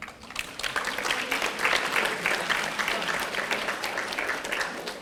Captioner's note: audience applauding